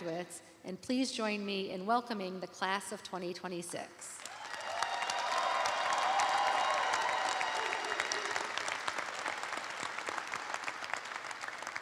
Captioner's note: cheers and applause